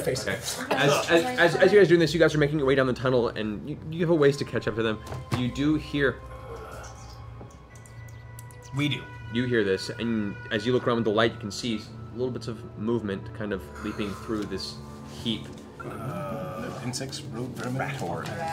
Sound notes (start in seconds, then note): 6.7 squeaking